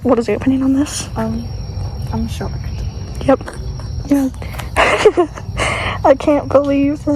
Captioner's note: laughing